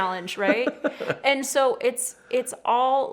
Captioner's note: laughs